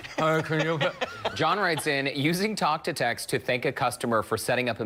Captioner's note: laughter